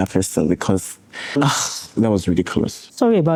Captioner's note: scoffs